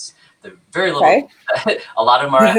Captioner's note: laughs